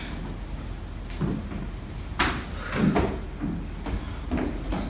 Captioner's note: footsteps